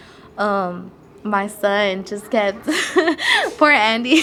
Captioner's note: laughs